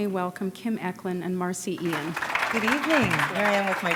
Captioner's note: applause